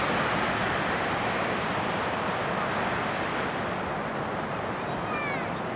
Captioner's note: wind blowing